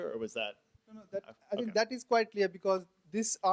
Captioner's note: voiceover